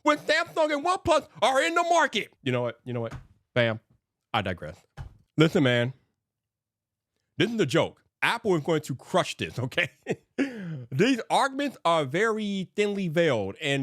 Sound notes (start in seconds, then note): 9.6 chuckles